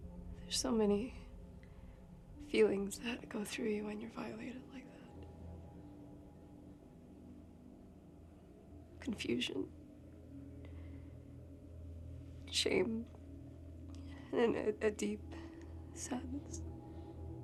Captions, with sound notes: - There's so many feelings that go through you when you're violated like that. (tense music) (crickets chirping) Confusion. Shame. And then a deep sadness.